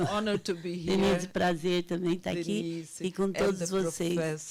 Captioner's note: speaking Portuguese